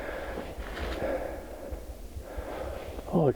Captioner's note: heavy breathing